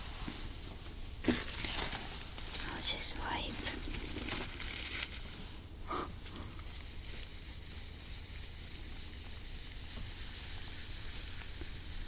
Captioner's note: erasing sound